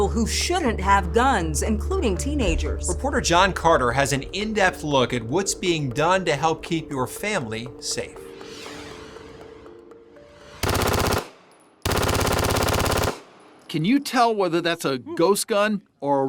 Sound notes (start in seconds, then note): 8.6 screen whooshing; 11.8 gunfire exploding